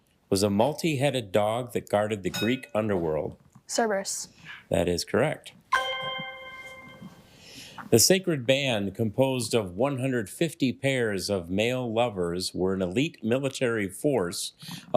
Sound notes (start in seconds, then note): 5.7 ethereal ringing